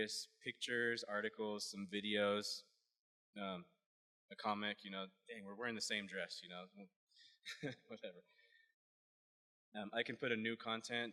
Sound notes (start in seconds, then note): 7.8 laughs